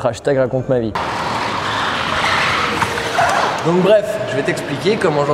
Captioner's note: tire screeching sound